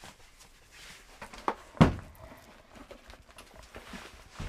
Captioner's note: box thuds